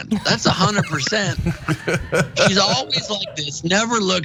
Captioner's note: laugh